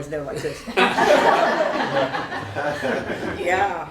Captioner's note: laughter